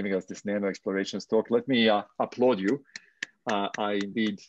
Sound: clapping

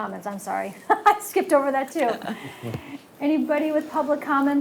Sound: laughs

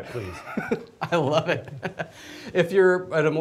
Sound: laughs

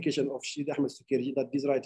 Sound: speaking arabic

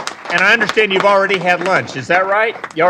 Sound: applause

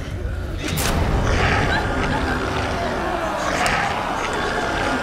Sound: zombie growls

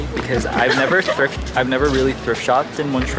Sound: laughing

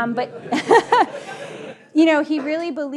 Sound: audience laughing

